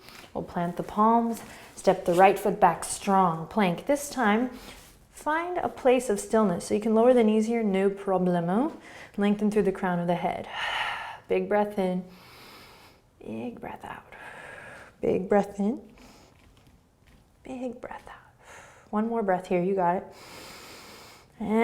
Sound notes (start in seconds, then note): 12.1 inhaling; 14.1 exhaling; 20.1 inhaling